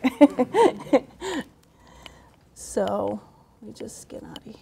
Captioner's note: laughter